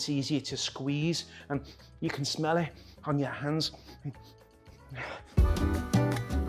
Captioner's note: sniffs; salsa music